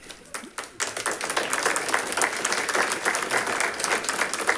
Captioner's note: audience applauding